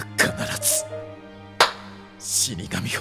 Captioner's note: clap